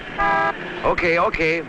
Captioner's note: horn honking